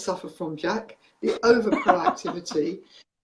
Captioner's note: laughs